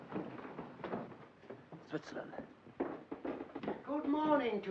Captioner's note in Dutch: voetstappen op trappen